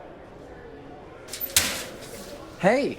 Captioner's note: students chattering; locker door thuds